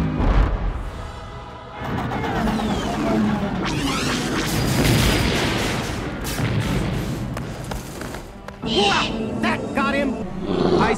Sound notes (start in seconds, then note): 1.1 penguin sounds; 3.6 blaster shots; 4.5 explosion